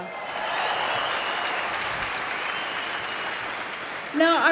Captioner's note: applause